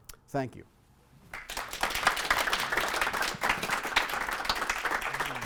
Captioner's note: audience clapping